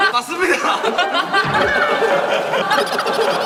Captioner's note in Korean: 푸흡